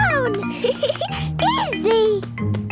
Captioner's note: giggling